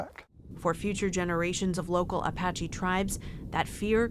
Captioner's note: voice-over